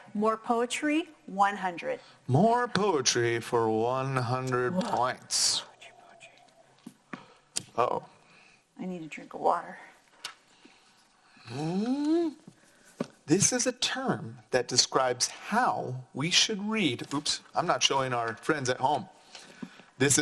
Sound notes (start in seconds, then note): 11.8 snorts